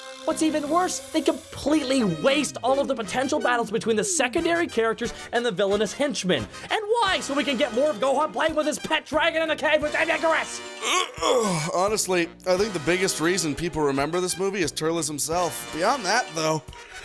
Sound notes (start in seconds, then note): 10.7 yawns and Stretches